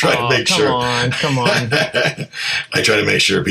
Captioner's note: laughing